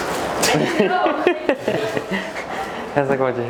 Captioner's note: laughing